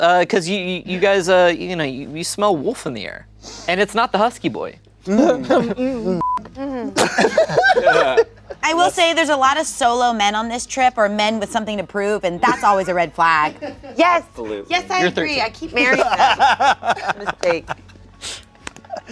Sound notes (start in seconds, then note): 6.2 beep; 6.9 laughing; 15.8 laughing